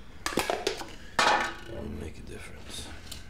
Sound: can crackles

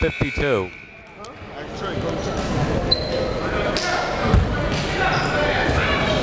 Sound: gymnasium bustles loudly; players chattering

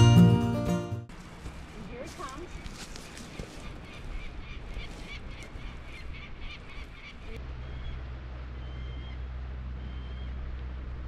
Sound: peregrine falcon calling

